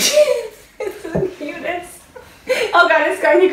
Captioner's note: laughs